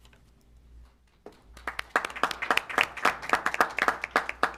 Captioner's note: applause